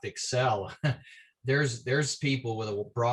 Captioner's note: laughter